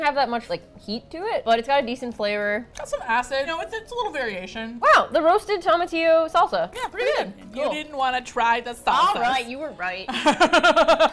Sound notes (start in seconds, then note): 7.6 teasingly; 10.0 laughs